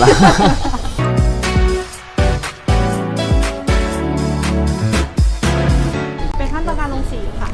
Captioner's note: pantingTime